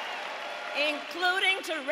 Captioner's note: applause; cheering